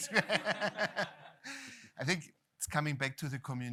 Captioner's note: laughter